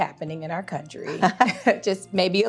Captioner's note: people laughing